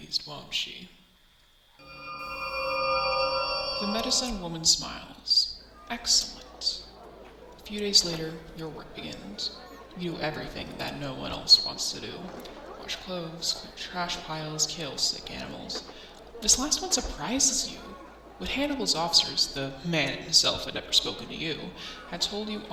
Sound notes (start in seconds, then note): 1.8 portal Noises